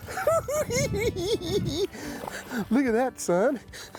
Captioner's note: cackling